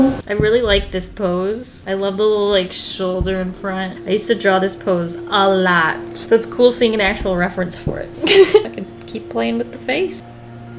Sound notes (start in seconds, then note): 8.1 laughs